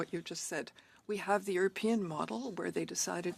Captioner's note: speaking in French